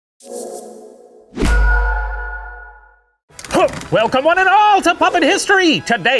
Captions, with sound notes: (logo whooshing) - Welcome on at all to "Puppet History"!